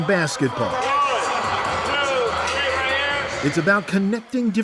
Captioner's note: crowd noise